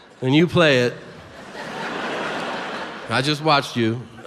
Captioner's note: audience laughs